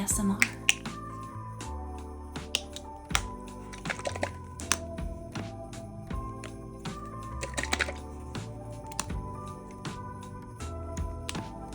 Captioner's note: soft sounds of paint caps opening and closing